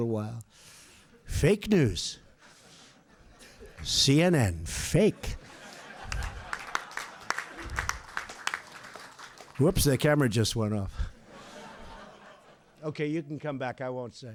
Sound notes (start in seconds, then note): 5.0 laughter and Applause; 11.0 laughter